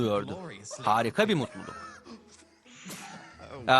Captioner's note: laughing